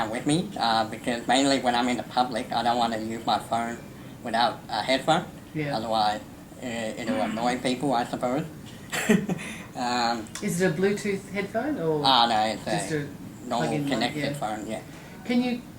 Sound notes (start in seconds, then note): 8.8 laughs